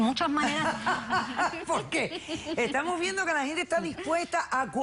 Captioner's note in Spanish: Risas